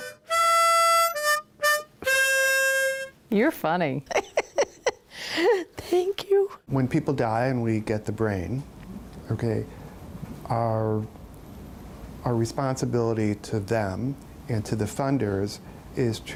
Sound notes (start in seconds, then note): 0.0 harmonica music continues; 4.0 laughs